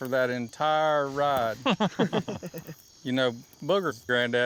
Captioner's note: chuckling